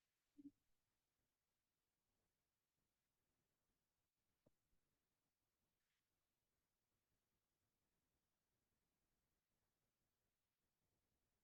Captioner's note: silence